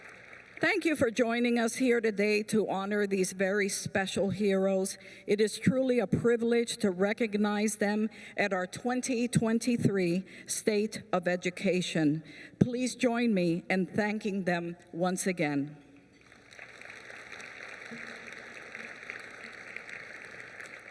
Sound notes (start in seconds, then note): 16.1 applause